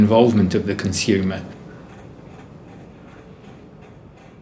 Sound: clock ticking

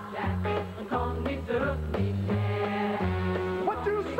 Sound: in German

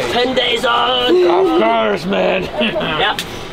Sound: laughing

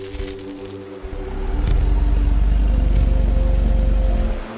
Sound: growling

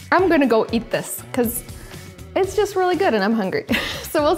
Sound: laughs

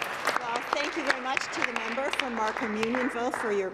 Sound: applause

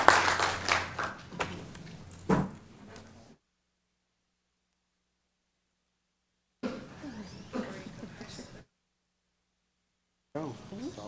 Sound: applause

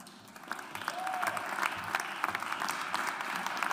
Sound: audience applauds

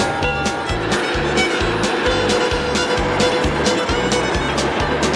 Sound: bell tolling

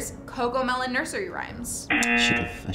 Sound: buzzer rings

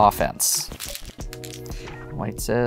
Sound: stones rattling

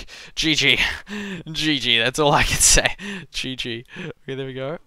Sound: laughing

